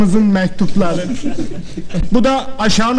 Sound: laughing

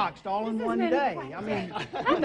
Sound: laughs

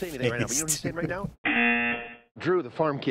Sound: snickers; buzzer

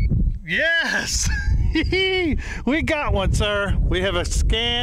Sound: laughs

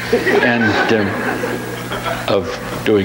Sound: audience laughs

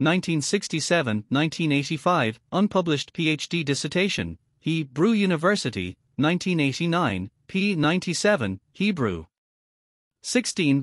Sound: Hebrew

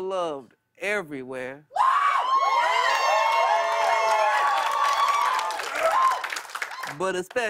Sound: cheers and applause

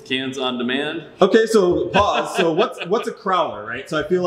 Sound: laughs

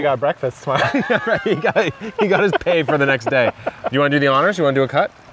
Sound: laughing

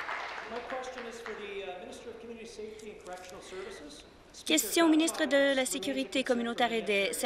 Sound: applause

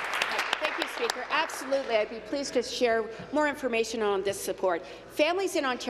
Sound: applause

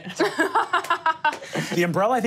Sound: laughs

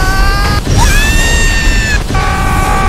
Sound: Meggy Scream; Rex Scream

